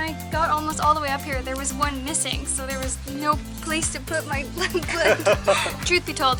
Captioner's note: laughter